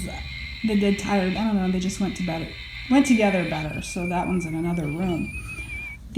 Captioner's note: electric buzzing; eerie ghostly sound; deeath rays sound